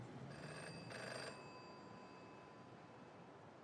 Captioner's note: phone rings